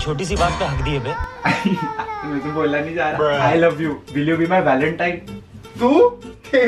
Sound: nervous laughter

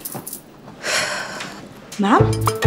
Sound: Maya sighs

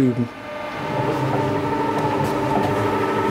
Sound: rattling

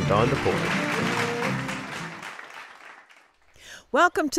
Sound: applause

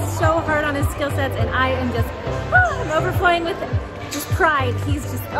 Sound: sighs

